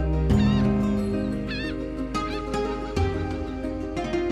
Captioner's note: birds cawing